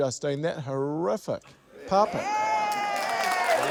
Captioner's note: cheering